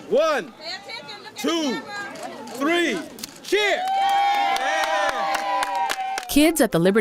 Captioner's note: applause, cheers